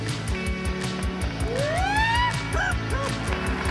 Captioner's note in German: Er jauchzt